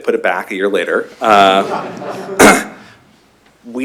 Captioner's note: laughter